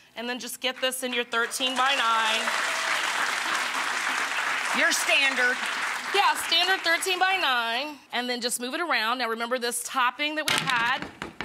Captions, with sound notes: And then just get this in your 13 by 9. (audience claps) Your standard. Yeah, standard 13 by 9. And then just move it around. Now remember this topping that we had,